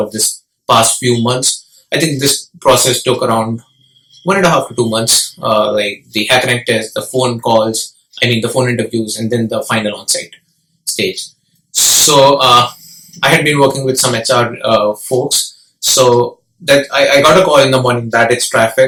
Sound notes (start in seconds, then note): 7.7 phone interview